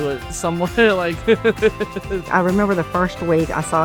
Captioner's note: laughs